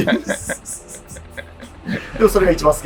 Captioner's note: laughing